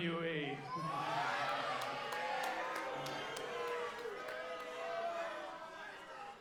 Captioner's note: audience cheering and booing